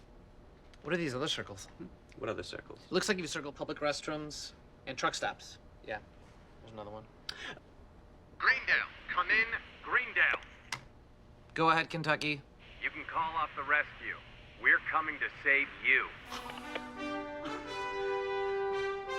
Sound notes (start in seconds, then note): 8.5 over intercom